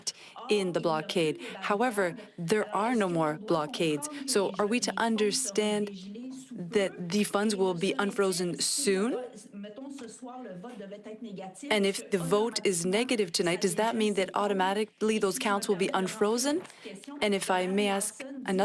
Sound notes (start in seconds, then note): 2.1 speaking French